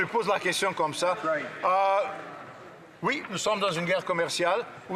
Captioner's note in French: voix de l'interprète